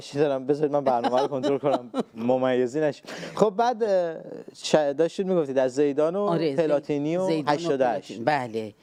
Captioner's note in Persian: خنده